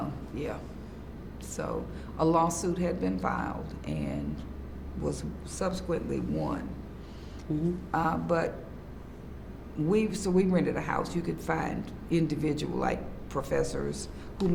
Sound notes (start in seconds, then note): none